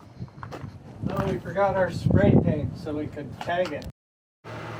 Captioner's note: sarcastically